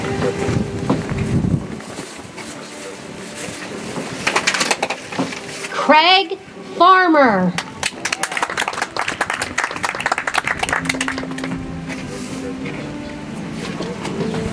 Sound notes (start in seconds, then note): 7.5 audience applauds; 11.8 soft music